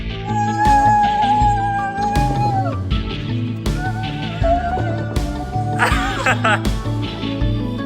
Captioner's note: CHEERS and LAUGHING